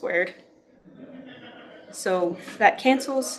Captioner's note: laughter